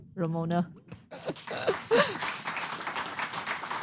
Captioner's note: applause